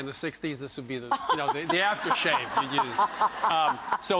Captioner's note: laughs